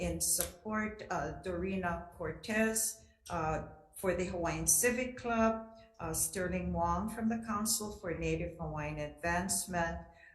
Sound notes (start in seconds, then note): none